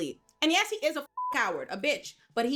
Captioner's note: beep